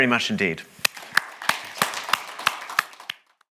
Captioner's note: audience applauds